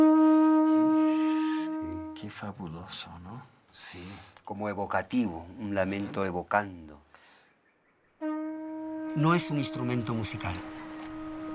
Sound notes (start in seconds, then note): 2.0 conversing in Spanish; 8.2 trumpeting